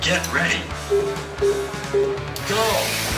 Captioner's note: timer beeping